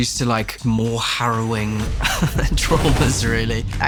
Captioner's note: chuckles